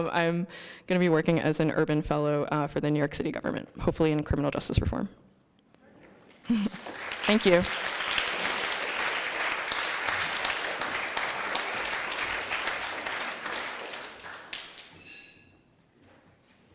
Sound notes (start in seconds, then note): 6.1 applause